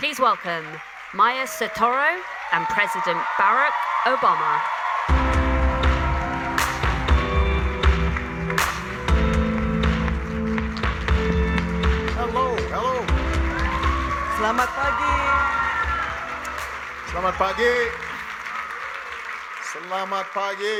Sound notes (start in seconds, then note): 5.3 upbeat music; 8.8 audience cheering and applauding; 14.6 speaking Indonesian